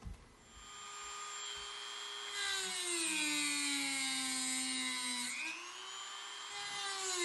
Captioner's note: Dremel buzzing